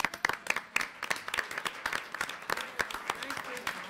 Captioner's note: applause